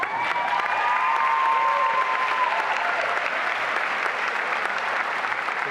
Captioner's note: applause and cheering